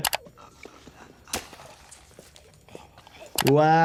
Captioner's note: labored breathing